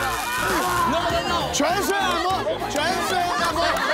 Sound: laughing at them

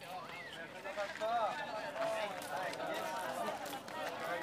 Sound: indistinct chattering

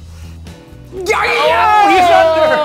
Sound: shouting and cheering

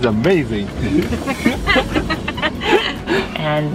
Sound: laughter

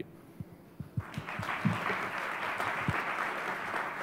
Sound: applause

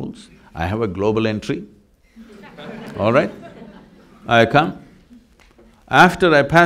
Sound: laughter

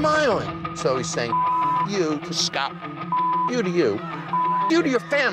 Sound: beep; beep

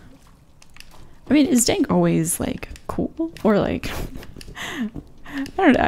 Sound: laughs

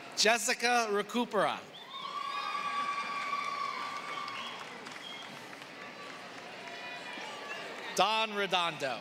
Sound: applause

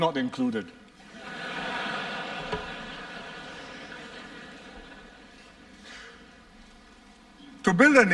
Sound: laughter

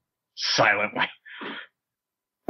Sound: chuckle

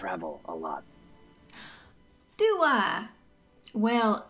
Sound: sounding delighted

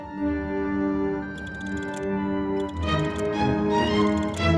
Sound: clock ticking

